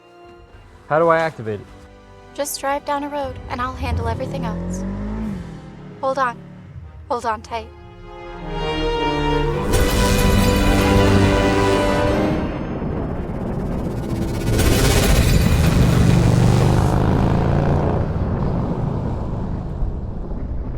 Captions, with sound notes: How do I activate it? Just drive down the road and I'll handle everything else. Hold on. Hold on tight... [music intensifies] [time travel sounds] [time travel sounds] [motorcycle]